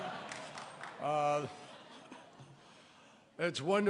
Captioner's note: laughter